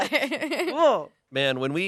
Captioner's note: laughs